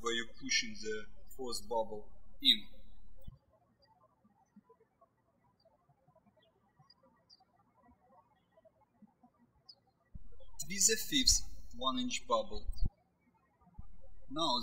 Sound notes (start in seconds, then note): 3.6 birds chirping